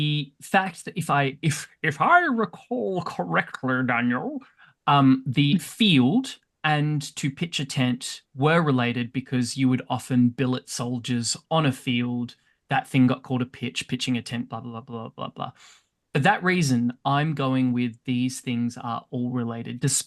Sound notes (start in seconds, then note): 1.0 in a haughty voice